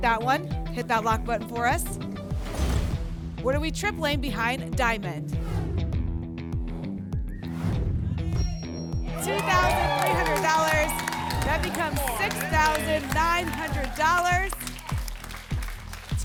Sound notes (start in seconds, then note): 2.2 whoosh; 2.4 thump; 5.4 whoosh; 7.5 whoosh; 13.4 applause and cheering